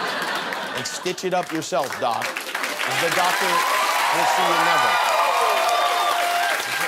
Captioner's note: ruido de público, dificil traducción